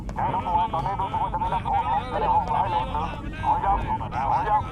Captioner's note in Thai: เสียงผู้คุมกำลังวิ่งเข้ามาหา